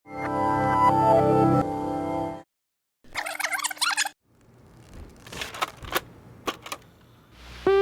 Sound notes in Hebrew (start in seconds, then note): 3.2 קלטת רצה אחורה